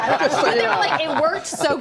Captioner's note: laughter